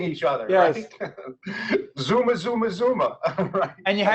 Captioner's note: laughing